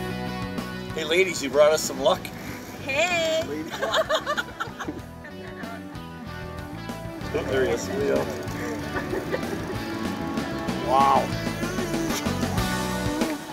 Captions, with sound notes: Hey ladies, you brought us some luck. - Hey. (laughing) Cut that out. - [Voiceover] Oh, there he is. Wow.